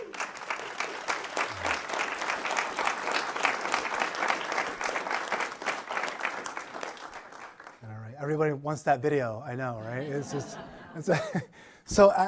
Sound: applause

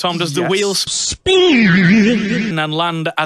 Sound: Vinesauce Speen sound effect

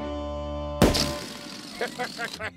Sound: pops, sputters; laughing

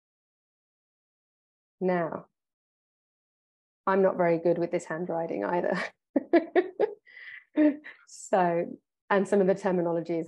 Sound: laughs

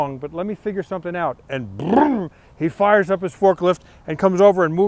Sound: makes revving sound

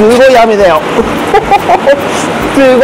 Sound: laughs

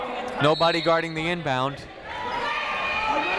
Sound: whistle tweeting; people shouting in the crowd

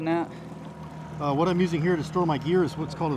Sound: trolling motor humming

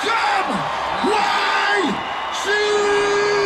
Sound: crowd cheers

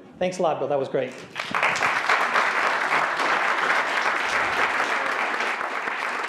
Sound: applause

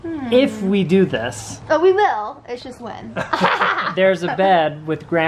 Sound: laughs

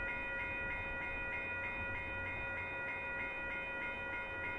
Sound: low pitch crossing bell, three beats per second; bell continues until after passage

